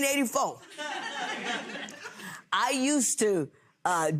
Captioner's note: audience laughs